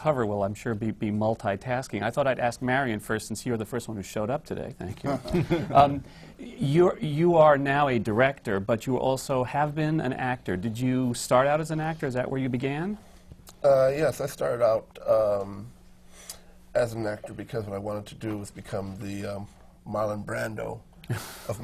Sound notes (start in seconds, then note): 5.0 laughter from the panel